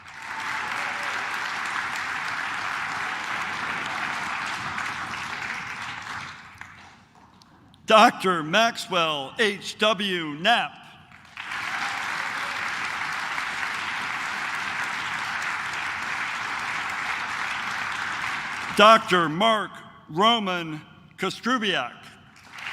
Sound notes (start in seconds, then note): 0.0 claps; 11.1 claps